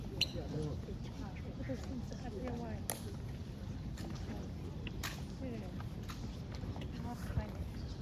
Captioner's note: clicks feet and rifling